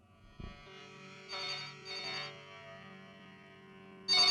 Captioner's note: phone rings